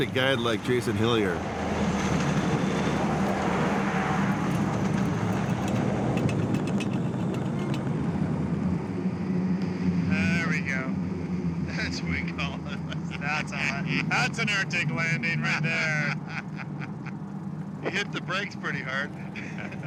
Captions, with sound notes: like Jason Hillier. (plane droning) There we go. That's what we call an... That's an Arctic landing right there. He hit the brakes pretty hard.